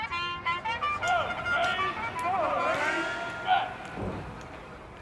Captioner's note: energetic trumpet music; officer calling orders